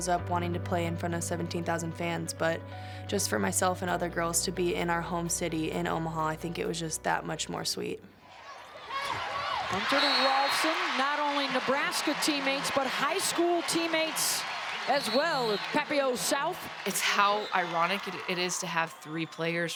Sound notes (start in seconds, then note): 8.4 cheering; 9.7 whistle blowing